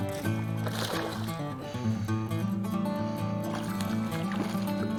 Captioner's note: water splashing